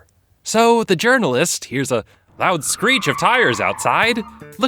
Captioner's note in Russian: громкий визг